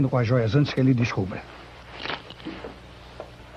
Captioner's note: crack